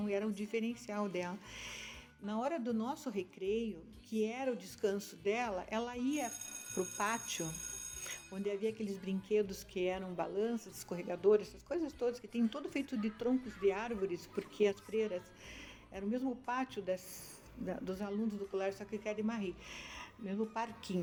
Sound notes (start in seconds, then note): 6.2 school signal sounds and children playing